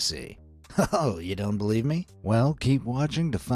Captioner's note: chuckles